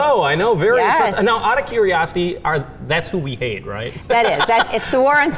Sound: laughs

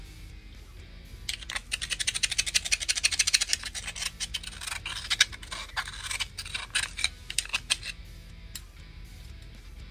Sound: metal scraping

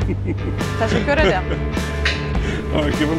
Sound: laughing

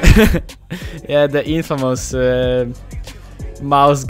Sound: laughs

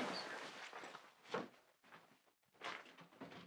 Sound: furniture rustling; foot steps

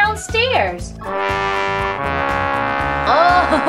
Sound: air horn blares

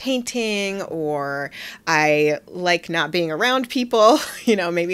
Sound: laughing

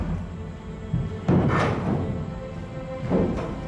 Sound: footsteps approaching

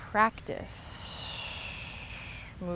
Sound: exhales

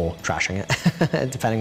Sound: laughing

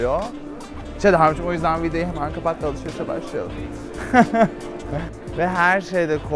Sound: laughs

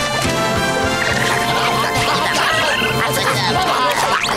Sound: speaking Isopod

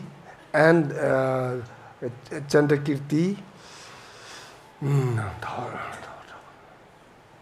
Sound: speaks foreign language

